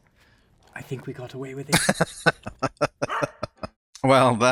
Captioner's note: laughing